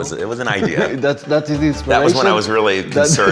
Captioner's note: laughs